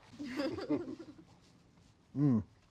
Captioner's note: chuckling